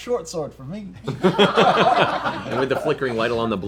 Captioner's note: laughter